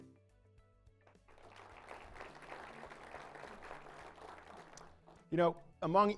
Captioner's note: applause